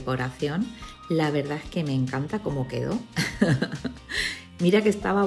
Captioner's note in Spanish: risas